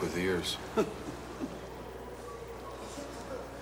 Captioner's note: laughs